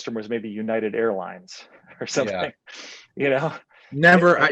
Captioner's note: chuckles